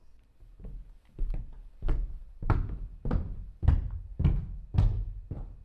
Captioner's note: loud footsteps continue